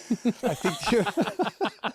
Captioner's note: laughs